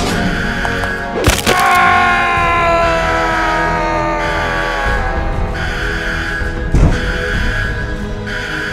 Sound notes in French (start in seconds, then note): 1.4 cri de SCP-035; 6.5 alarme